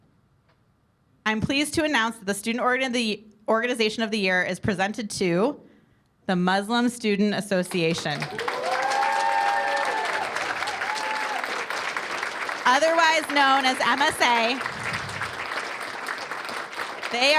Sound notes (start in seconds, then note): 9.1 cheers and applause